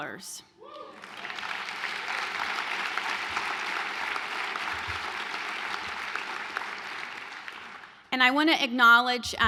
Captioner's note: applause